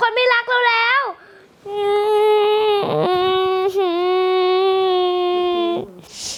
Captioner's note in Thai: ร้องไห้